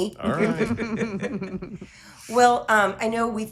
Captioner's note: laughing